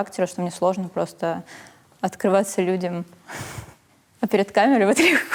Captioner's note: laughs; laughs